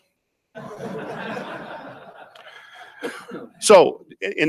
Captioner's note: audience laughs